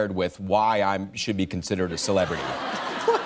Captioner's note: laughter